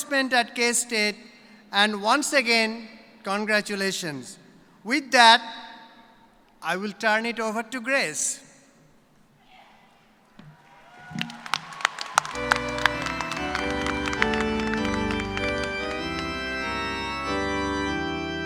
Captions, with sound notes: TIME, CHANGE THE WORLD. BE PROUD OF YOUR ACCOMPLISHMENT AT K-STATE AND ONCE AGAIN, CONGRATULATIONS. WITH THAT, I WILL TURN IT OVER TO GRACE. [APPLAUSE]